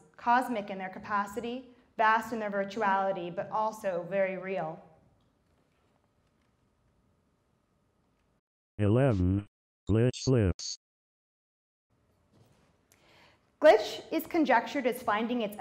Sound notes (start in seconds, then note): 8.9 robot Voice